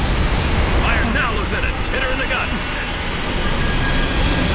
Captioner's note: radio